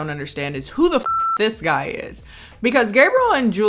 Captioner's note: beep